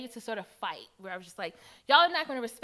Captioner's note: none